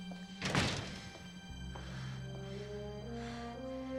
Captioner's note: breathing heavily